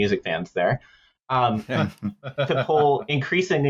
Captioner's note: laughter